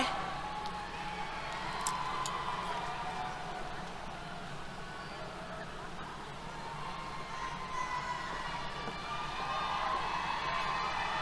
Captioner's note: cheers